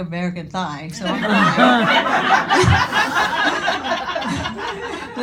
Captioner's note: audience laughing